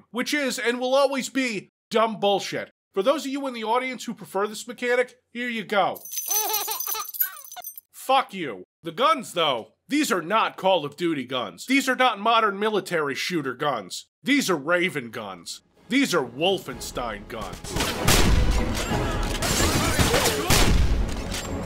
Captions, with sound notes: Which is, and will always be, dumb bullshit. For those of you in the audience who prefer this mechanic, here you go : *keys jingling* *laughing baby* Fuck you. The guns though? These are not Call of Duty guns. There are not modern military shooter guns. These are Raven guns. These are Wolfenstein guns.